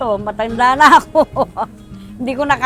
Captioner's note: laughs